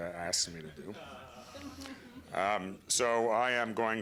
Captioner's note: laughter